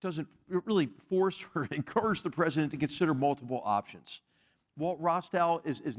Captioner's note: laugh